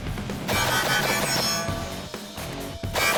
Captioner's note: gun fires